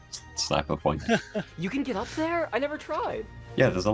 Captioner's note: chuckles with gravity